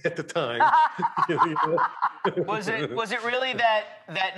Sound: Rachael laughing

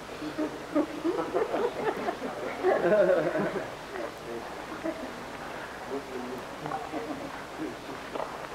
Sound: laughter

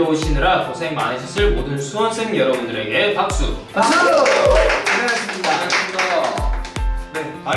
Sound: clap clap clap

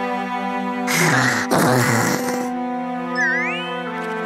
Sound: sighs

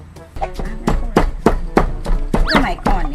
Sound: pounding sound

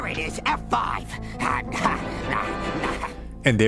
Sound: evil Laughter/Grunting

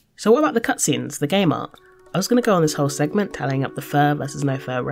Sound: none

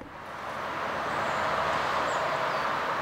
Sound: traffic noise

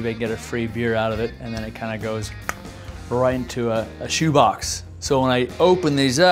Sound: clicking tongue

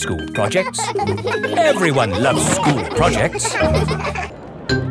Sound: children laughing

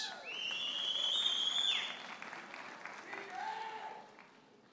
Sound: audience member whistles; audience member hollers

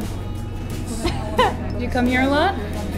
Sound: laughs

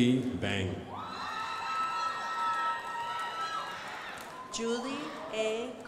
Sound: crowd applauding

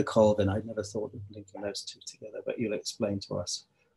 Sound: faintly speaking

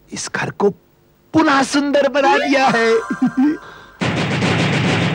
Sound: chuckles

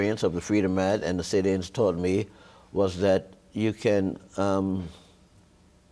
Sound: none

